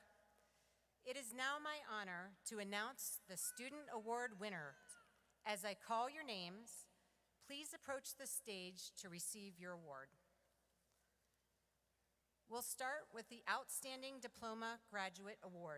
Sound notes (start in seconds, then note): none